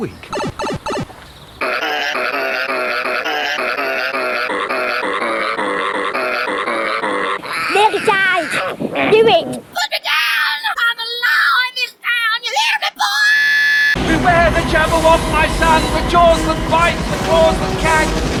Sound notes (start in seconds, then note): 0.3 Super Mario Bros. pipe sound effect; 8.3 pig squeals in obvious discomfort